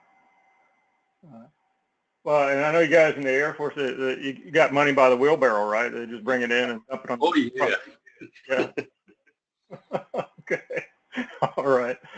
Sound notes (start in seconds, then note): 9.7 laugh